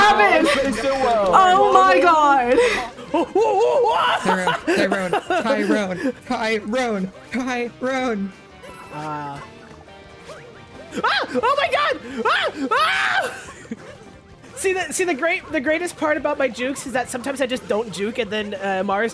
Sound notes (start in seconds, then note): 4.6 laughs; 10.7 yells